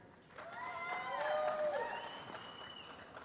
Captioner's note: applause